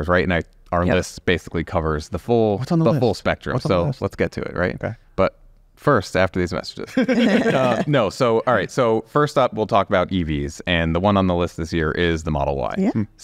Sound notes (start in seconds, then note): 6.9 laughter